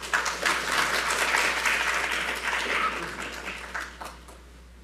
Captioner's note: audience applauds